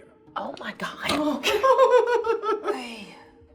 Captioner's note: laughing